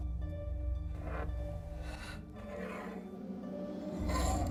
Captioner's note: scraping